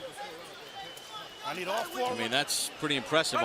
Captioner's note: whistle blows